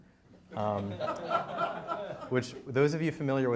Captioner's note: audience laughing